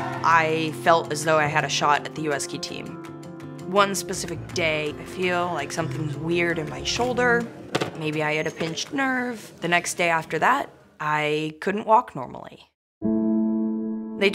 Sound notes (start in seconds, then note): 7.7 medicine ball thudding; 13.0 forlorn music